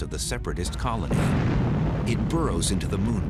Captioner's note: explosion